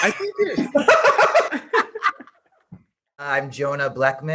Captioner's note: group laughing